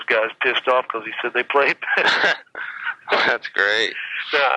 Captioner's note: laughs